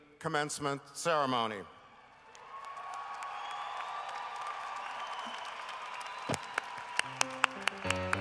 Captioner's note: cheering and applause